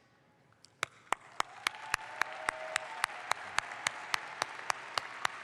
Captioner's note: audience applauds